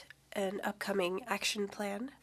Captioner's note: speaking French